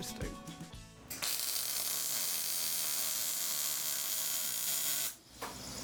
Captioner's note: welding torch splatters